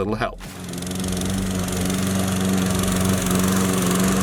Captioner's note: lawnmower running